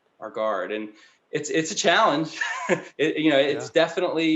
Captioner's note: laughing